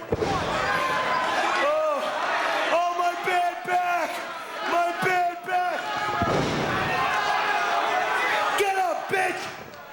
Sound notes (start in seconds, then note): 6.1 feet stomping; 6.2 crowd vocalizing